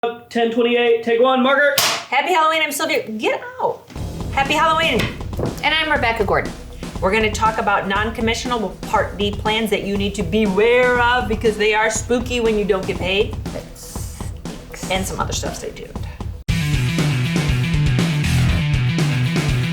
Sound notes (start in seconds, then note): 1.8 clap; 3.6 upbeat music; 16.9 upbeat music